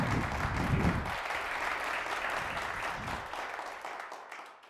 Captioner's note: audience applauding